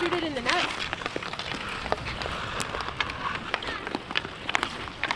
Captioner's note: ice crunching